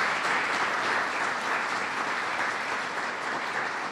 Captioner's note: applause